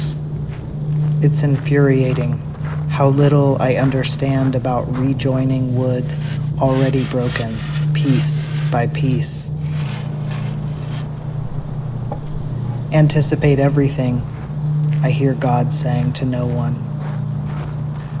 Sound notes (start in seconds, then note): 1.7 sound of foosteps on gravel; 9.0 sound of wood on gravel; 16.4 sound of footsteps on gravel